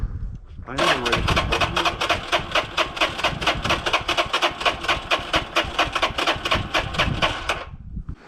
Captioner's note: engine turning